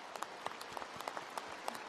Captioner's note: applause